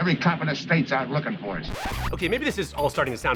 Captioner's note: record scratching